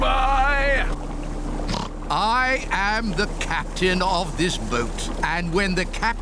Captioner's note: oinks